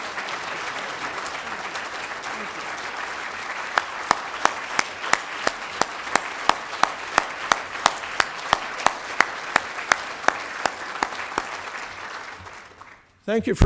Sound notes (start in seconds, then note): 3.3 applause